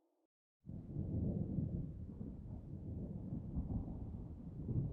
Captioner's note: thunder rumbling